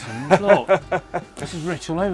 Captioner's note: laughing